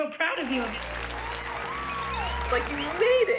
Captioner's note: applause